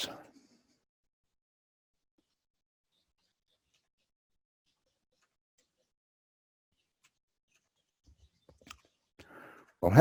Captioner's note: pause